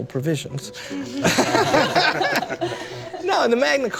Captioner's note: laughter